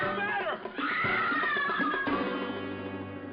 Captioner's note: continues screaming